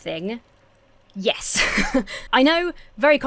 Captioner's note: chuckles